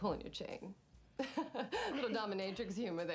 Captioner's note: laughing